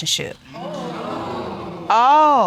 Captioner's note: audience exclaiming